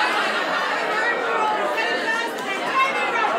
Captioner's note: crowd